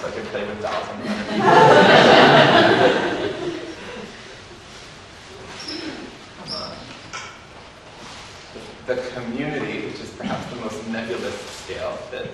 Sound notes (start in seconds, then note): 1.0 audience laughs